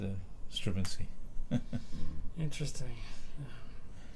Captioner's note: laughter